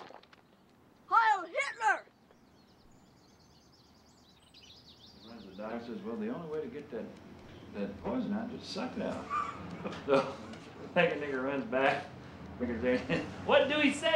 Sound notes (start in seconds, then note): 9.2 all chuckling